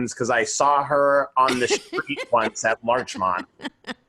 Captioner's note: laughing